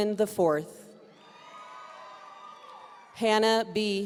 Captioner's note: audience cheering